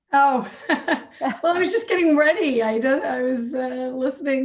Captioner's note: laughs